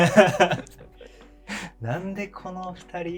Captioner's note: laughing